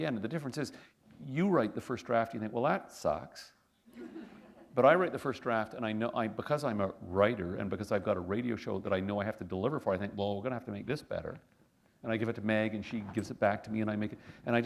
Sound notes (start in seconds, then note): 3.9 laughter